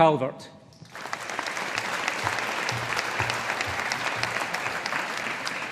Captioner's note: audience applauding